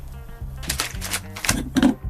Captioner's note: cutting bamboo shoots